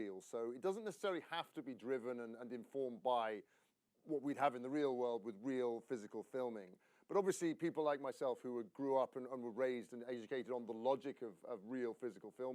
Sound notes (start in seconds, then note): none